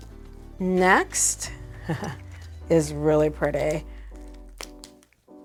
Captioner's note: laughs